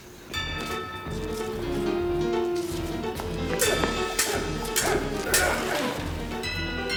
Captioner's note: John and Steve grunting; swords clanging